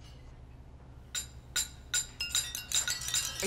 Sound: glasses clinking

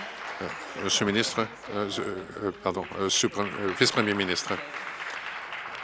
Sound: some Applause

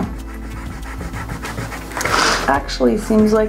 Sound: eraser rubbing

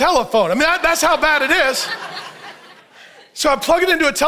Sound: audience laughs

